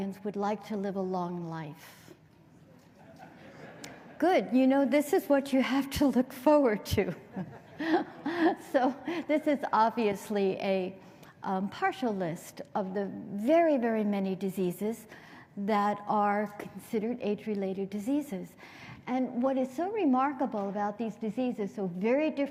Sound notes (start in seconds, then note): 2.8 laughter